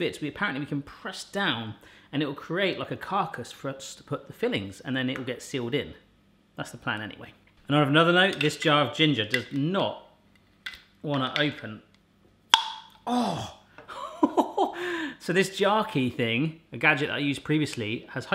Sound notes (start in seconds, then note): 12.5 popping; 13.9 laughing